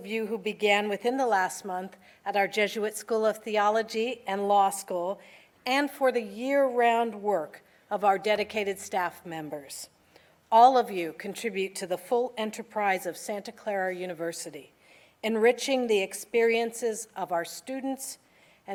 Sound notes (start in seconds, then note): none